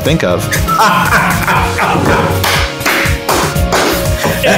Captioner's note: laughing